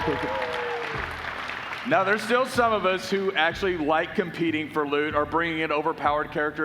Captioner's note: applause